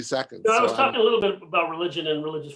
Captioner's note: laughing